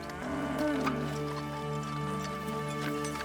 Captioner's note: cattle mooing